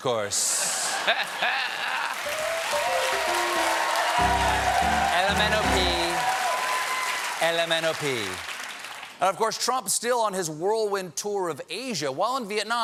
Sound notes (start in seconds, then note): 0.6 laughter; 1.0 cheers and applause; 2.2 piano riff